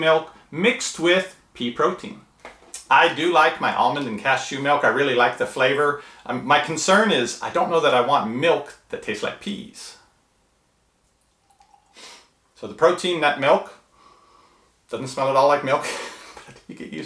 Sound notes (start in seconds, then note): 11.1 liquid pouring; 13.9 inhales; 15.8 laughs